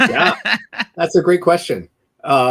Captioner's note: laughs